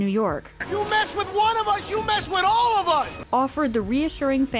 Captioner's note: yelling